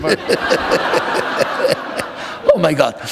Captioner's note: laughter